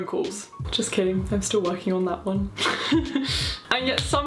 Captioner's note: laughs